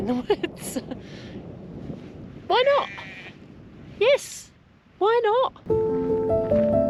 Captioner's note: giggle; sheep sound